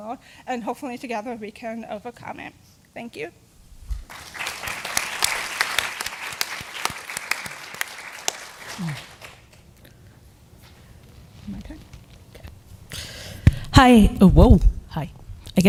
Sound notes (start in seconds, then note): 4.0 applause